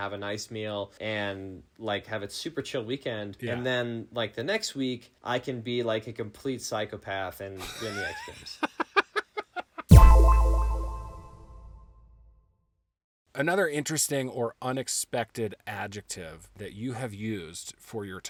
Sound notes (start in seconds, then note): 7.6 laughing; 9.9 sharp tone echoing